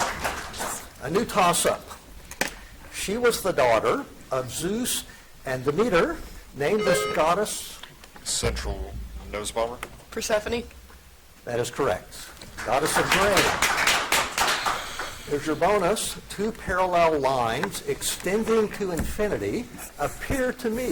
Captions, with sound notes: A new tossup. She was the daughter of Zeus and Demeter named as goddess. (buzzer dings) - Central. Noswamer. - Persephone. - That is correct. Goddess of grain. Here's your bonus. Two parallel lines extending to infinity appear to meet.